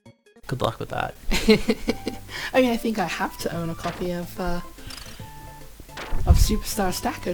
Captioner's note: laughs